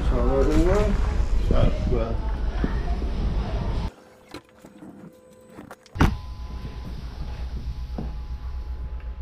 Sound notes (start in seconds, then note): 3.9 audio whizzing